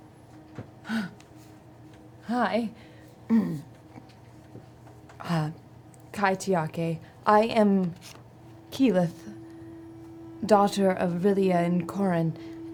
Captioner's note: clears throat